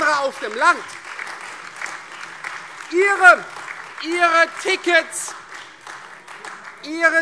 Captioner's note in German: Beifall Freie Demokraten, AfD und vereinzelt SPD